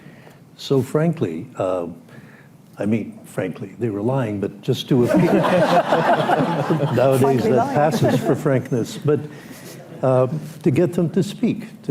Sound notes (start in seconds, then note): 5.0 laughs; 5.0 laughter